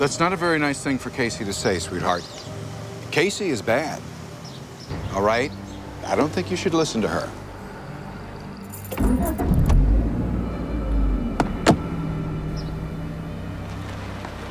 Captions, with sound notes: - That's not a very nice thing for Casey to say, sweetheart. Casey is bad, all right? I don't think you should listen to her. (engine turns over) (gears click)